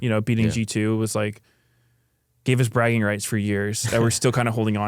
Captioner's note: laughs